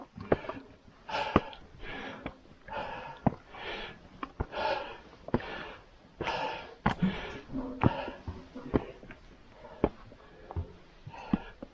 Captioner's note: breathing heavily